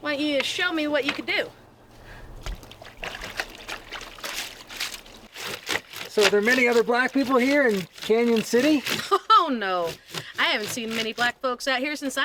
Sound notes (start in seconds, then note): 1.9 clothes grating; 3.0 water sloshing